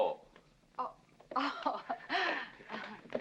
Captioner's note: laughing softly